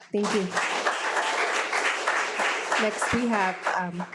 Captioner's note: audience clapping